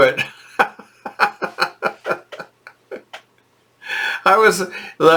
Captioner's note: laughing